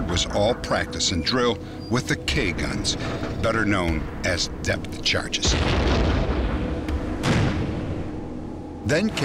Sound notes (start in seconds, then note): 5.4 boom